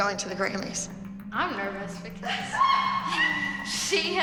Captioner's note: laughter